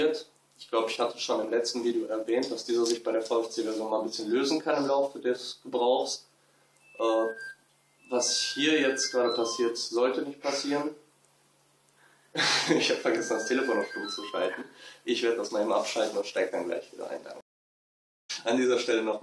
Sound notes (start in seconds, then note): 7.2 phone ringing*.. bla bla bla